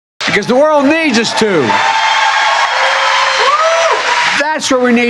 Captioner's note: applause